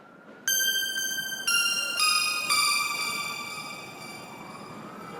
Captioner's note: electronic tones